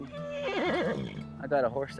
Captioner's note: horse whinnies